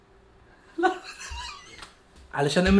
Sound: laughs

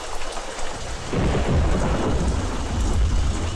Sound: thunder crashing

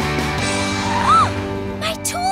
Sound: gasping

